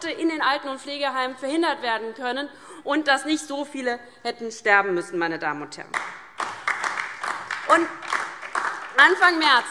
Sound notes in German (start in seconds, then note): 5.9 Beifall DIE LINKE und vereinzelt SPD